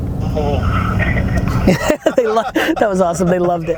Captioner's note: laughing